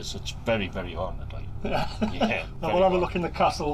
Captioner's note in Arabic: يضحك